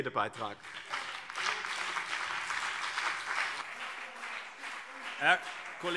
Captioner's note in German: Beifall BÜNDNIS 90/DIE GRÜNEN und CDU